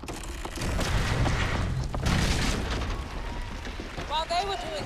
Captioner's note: creaking & rumbling